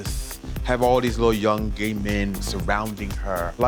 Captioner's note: none